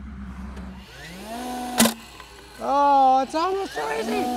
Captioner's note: staple gun roaring